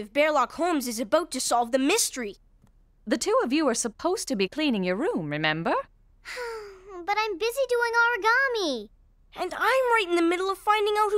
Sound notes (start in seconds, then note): 6.2 sighing